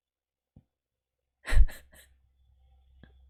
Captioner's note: laughs